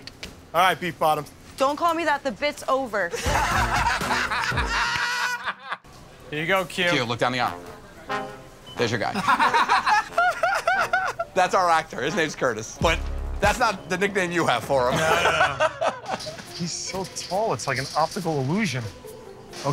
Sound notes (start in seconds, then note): 3.1 laughter; 9.1 laughter